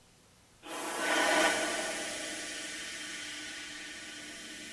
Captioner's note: air hissing